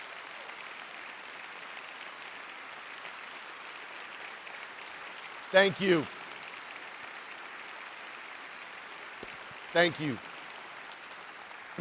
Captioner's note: applause